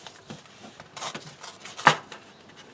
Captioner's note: tearing sound